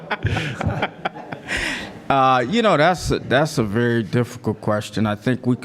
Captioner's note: laugh